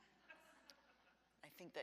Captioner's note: audience laughs